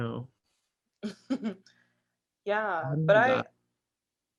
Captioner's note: laughs